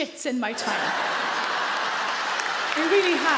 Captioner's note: audience laugh loudly; audience clap